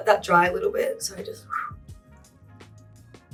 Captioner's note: whistle